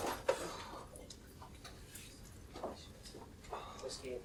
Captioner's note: gruñidos